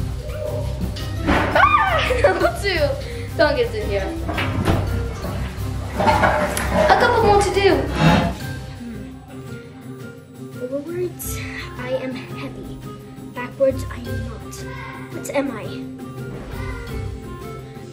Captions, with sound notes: (shrieking) number two, dog is in here. A couple more to do. - Forwards, I am heavy. Backwards I am not. What am I?